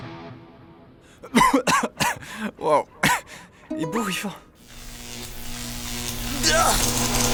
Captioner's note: cough cough cough; cough